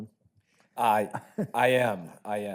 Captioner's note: laughs